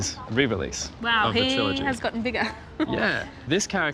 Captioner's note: chuckles